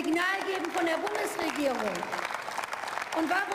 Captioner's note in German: Beifall